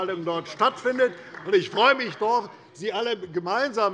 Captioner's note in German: Beifall bei der CDU